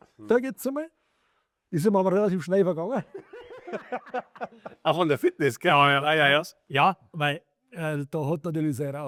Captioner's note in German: gelächter